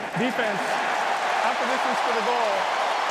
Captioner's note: cheering